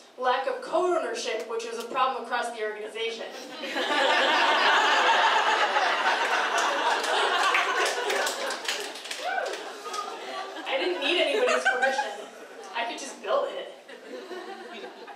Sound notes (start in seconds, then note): 4.7 crowd laughing; 6.0 applause